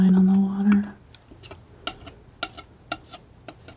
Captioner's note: tapping